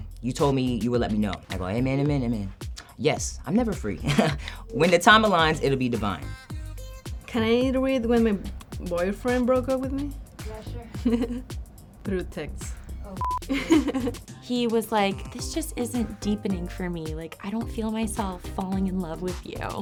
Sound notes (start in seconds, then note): 4.0 laughs; 10.8 laughs